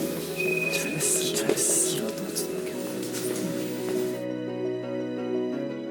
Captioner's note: runners cheering each other on